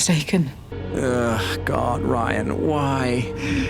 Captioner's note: sigh